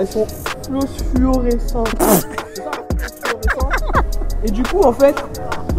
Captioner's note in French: rires